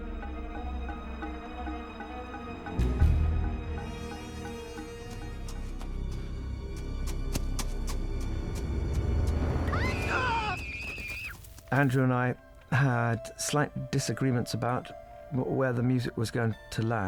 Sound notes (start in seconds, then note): 0.1 suspenseful music playing; 6.6 hoofbeats; 9.6 both screaming